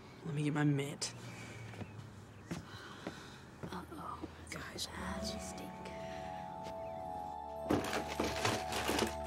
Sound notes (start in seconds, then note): 4.0 whispering